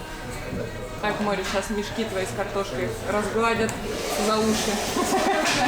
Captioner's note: laughter